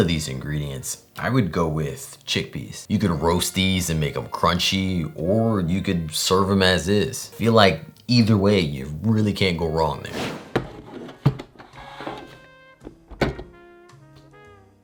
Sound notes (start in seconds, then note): 10.0 base sliding